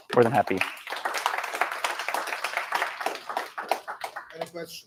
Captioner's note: applause